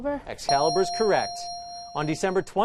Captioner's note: correct answer chime